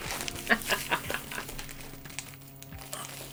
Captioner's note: eveL laugh